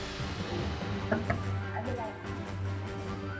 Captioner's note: knock on the glass